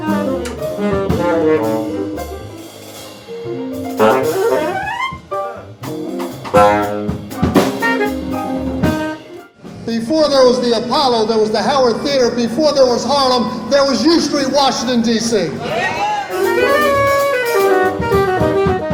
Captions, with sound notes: Before there was the Apollo, there was the Howard Theatre. Before there was Harlem, there was U Street, Washington, D.C. [ crowd cheers ]